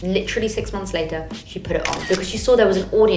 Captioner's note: camera shutter clicks